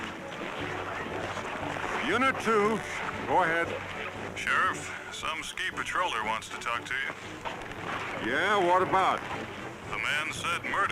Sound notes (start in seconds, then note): none